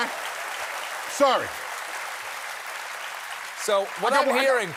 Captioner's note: applause